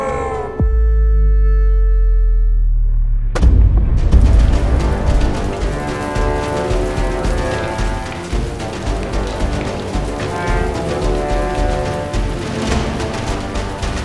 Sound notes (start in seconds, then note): 0.0 shouting; 4.0 sound of crumbling stones